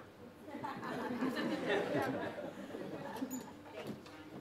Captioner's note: laughter